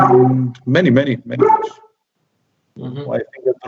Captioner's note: dog barks; dog barks again; laughs